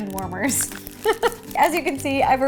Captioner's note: giggle